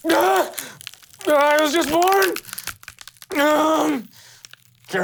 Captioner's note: gasping